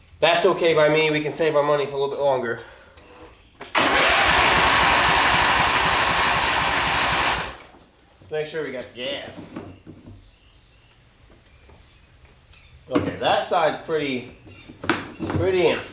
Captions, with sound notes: That's okay by me, we can save our money for a little bit longer. (Engine Revving) Let's make sure we got gas. Okay, that side's pretty empty.